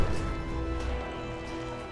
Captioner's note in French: grésillements